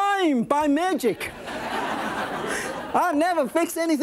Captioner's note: audience laughing